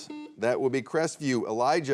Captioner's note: buzzer beeps